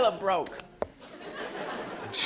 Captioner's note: laughter